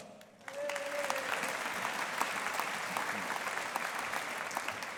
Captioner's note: audience applauding